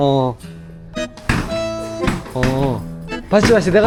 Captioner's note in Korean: 우당탕탕